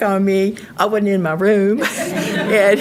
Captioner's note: audience laughing